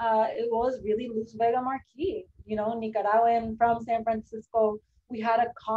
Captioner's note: spanish